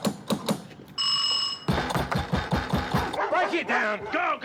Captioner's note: door knocker banging; doorbell ringing